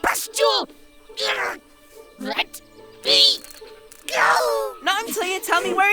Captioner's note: struggling